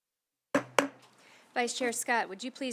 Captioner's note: silence; gavel hitting dais twice